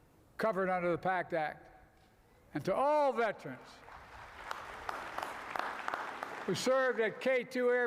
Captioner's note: applause